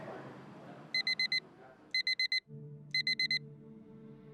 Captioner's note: alarm clock beeping